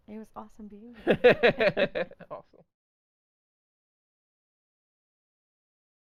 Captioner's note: laughing